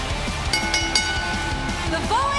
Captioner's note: bell ringing